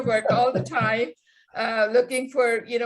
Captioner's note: laughing